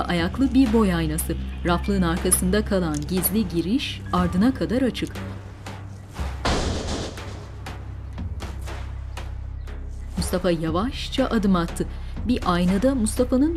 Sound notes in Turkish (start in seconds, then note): 6.4 Patlama sesi; 9.1 Müzik - Gerilim